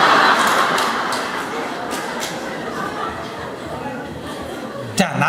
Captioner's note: audience Laughter